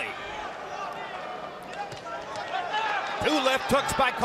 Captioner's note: crowd shouting